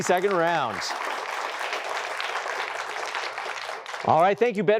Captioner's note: applause